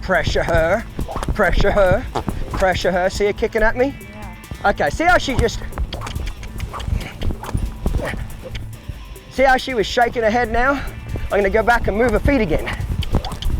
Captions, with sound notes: Pressure her, pressure her, pressure her. See her kicking at me? Okay see how she just- (clicking tongue) see how she was shaking her head now. I'm gonna go back and move her feet again.